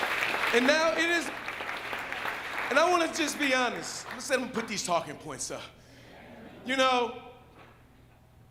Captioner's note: applause